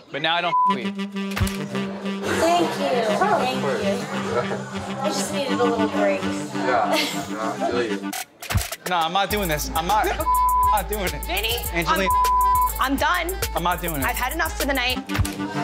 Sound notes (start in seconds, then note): 0.5 beep; 10.2 beep